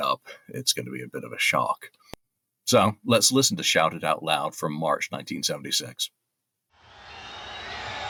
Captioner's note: cheering